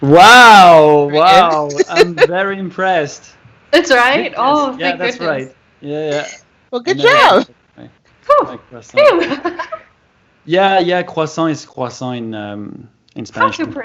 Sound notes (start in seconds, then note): 6.8 celebratory noises